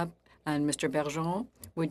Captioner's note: speaking French